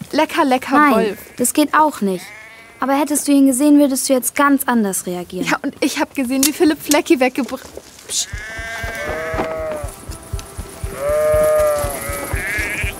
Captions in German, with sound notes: Lecker, Wolf. - Nein, das geht auch nicht. Hättest du ihn gesehen, würdest du ganz anders reagieren. Ich hab gesehen, wie Philipp Flecki weggebr-... Psch. (Blöken) (Aufgeregtes Blöken)